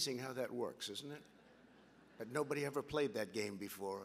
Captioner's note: laughter